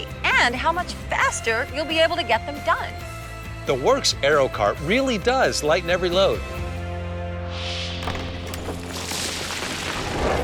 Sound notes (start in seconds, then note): 7.3 wind whooshes; 8.0 rocks clatter